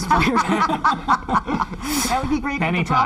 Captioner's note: all laughs